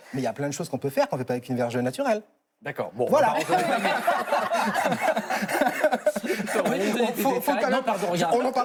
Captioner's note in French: rires